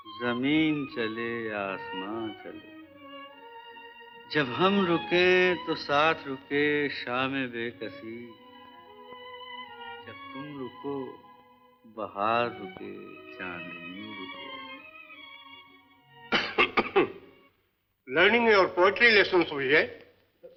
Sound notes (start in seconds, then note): 16.2 coughs